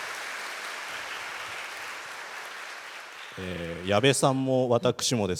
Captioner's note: applause